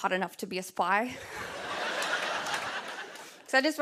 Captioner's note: laughter